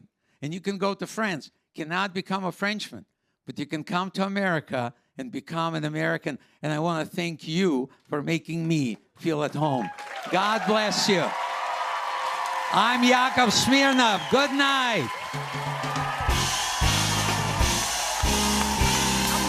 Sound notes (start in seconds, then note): 11.1 cheers and applause; 13.9 cheers and applause continue